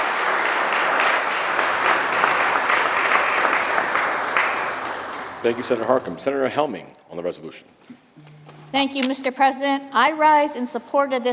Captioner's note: applause